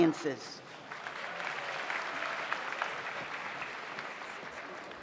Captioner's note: audience applauds